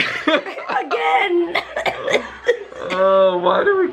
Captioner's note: laughter; coughing